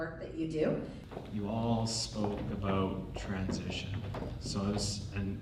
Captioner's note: voiceover